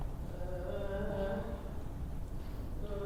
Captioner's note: Tally moaning